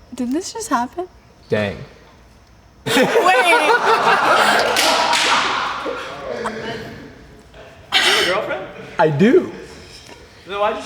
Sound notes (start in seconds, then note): 2.8 people laughing